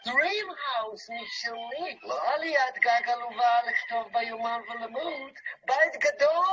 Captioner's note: speaking in a foreign language